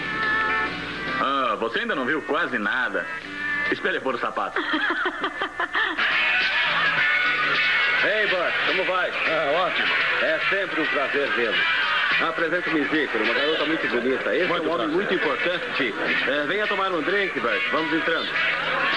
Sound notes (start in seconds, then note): 4.5 chuckles